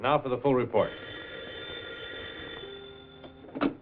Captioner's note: phone ringing